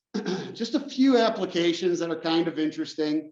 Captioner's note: cough